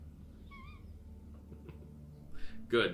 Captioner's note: laughing